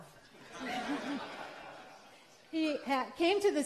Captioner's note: laughter